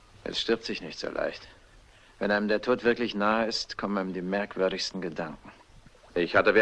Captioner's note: none